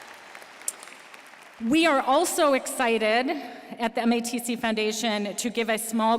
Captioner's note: applause